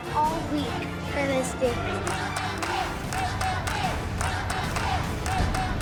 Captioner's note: audience chanting "Let them dance!"